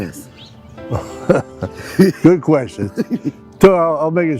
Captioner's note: laughing